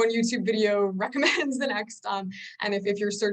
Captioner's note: chuckles